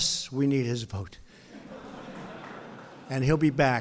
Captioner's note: laughter